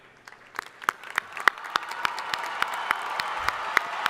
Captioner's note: crowd applauding